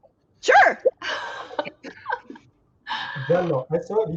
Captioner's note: laughs